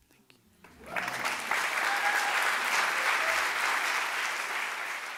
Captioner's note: audience applauding